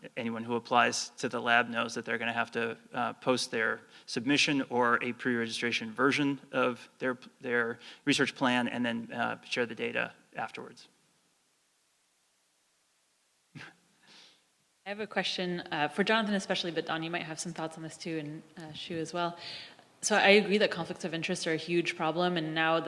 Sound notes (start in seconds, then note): 13.2 laugh